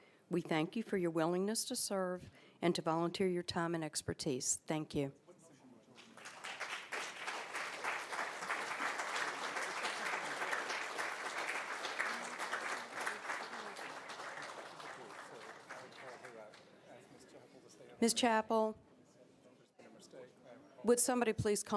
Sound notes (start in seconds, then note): 11.1 applause